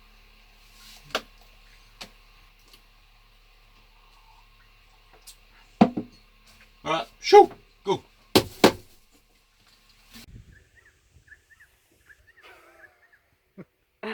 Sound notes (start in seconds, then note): 8.4 bangs; 10.2 birds chirp; 13.9 laughs